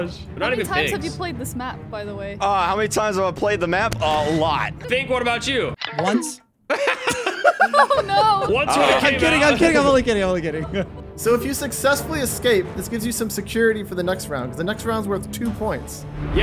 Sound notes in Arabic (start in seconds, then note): 6.7 يضحكان; 10.9 يضحك